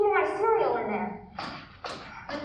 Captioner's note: SOUND EFFECT: footsteps